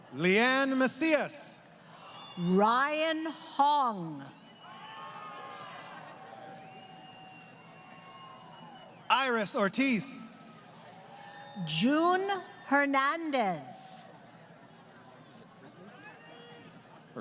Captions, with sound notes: >> Leanne Mesias. >> Ryan Hong. [ Crowd Cheering ] >> Iris Ortiz. >> June Hernandez.